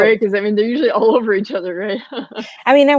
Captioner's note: laughs